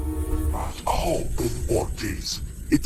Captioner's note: speaks Draconic